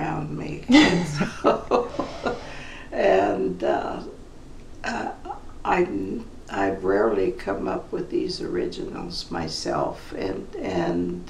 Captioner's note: laughs